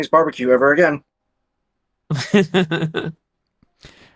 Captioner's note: laughing